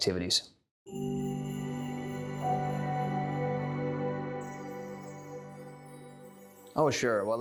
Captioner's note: chime Sound